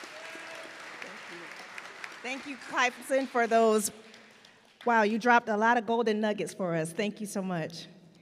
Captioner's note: applause